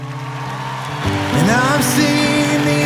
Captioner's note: audience Cheering